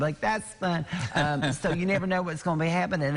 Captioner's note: laughter